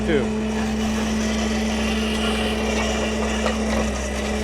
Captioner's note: auger grinding